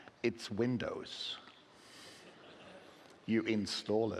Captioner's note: laughing